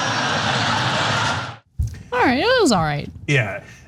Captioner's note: laugh